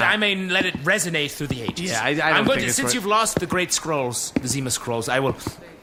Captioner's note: Pleck makes noncommittal noises